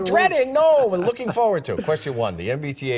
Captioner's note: laughter